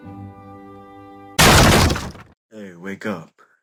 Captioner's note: bang